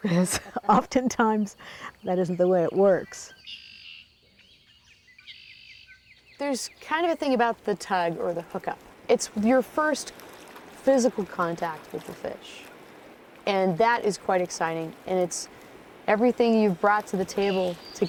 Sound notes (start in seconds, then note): 3.3 birds chirping